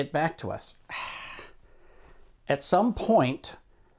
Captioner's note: exhales